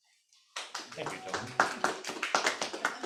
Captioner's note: audience applauding